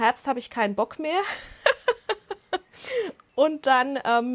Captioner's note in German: gelächter